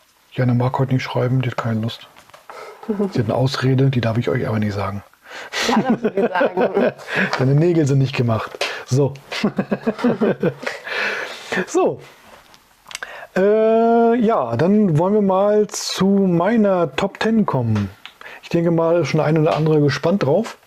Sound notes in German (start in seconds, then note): 5.5 lach; 9.3 Gelächter